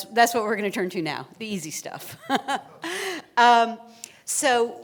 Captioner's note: laughter